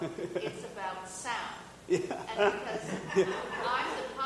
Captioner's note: audience laughing